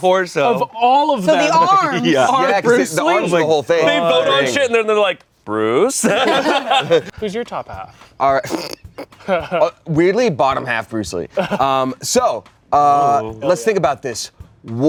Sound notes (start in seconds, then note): 6.0 everyone laughs; 8.9 laughs